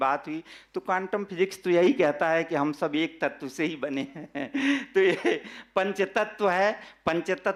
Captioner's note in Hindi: हंसी